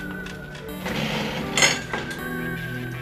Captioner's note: desk squeaks